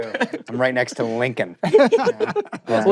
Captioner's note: laughter